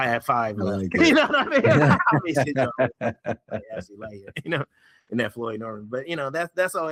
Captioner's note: laughing